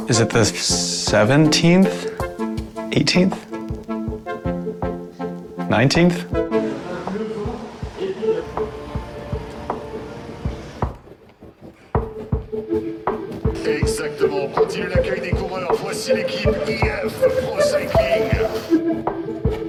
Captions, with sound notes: -Is it the 17th? 18th? 19th? -[announcer speaking foreign language]